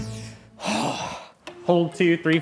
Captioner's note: exhaling